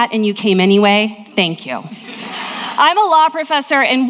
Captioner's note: audience laughing